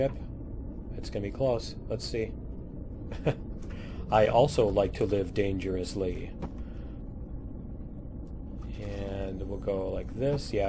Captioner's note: laughs